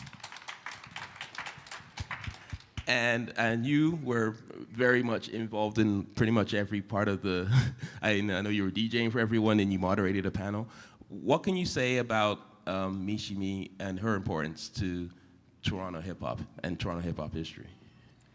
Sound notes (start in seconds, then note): 0.0 applause; 7.4 chuckle